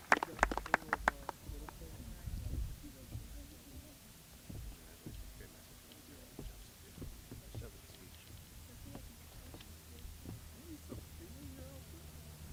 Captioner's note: applause